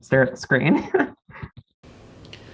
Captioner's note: laughs